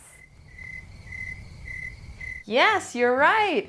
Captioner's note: crickets chirping